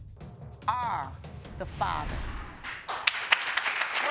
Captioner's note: audience clapping